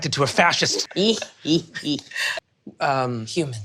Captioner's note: cackles